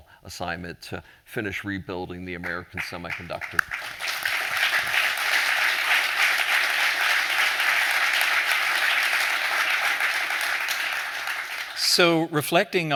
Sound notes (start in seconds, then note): 4.6 applause